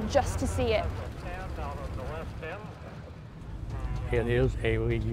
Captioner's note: crowd noise and muffled announcements